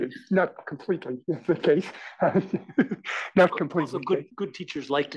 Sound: laugh

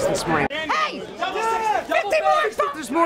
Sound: yelling

